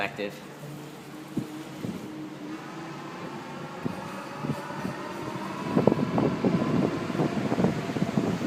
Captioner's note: motor noise